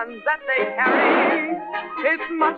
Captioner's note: gunshot